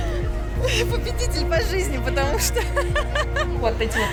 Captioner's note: laughter